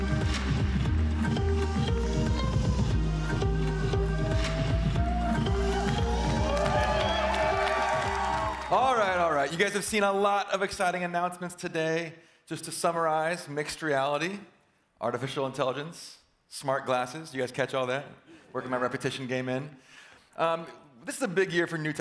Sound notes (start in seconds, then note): 0.0 upbeat music; 2.9 cheering